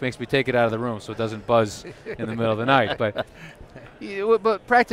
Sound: laughter

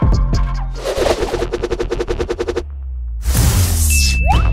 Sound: shuffle

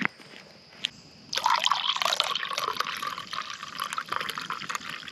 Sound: coffee trickling

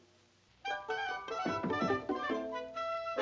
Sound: knocking

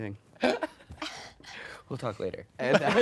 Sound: laughing

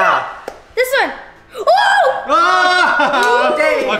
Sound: cheering

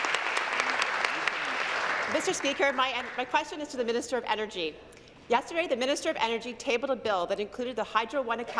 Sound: applause

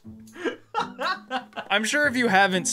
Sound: laughs

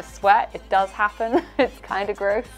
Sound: laughing

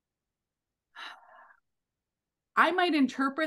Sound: sighs

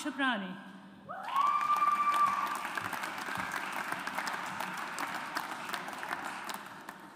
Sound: audience applauds

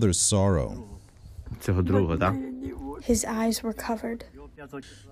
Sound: through translator

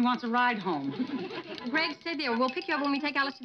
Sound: audience laughing

